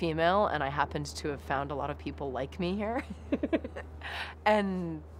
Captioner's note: laughs